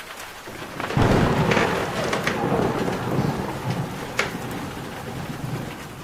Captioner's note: thunder cracks